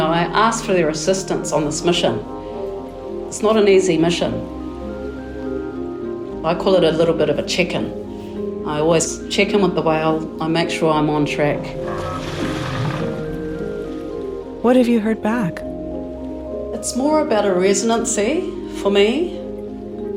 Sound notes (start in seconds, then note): 4.7 tranquil music; 11.7 whale rumbling; 11.7 water splashing